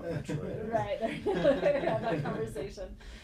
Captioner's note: laughing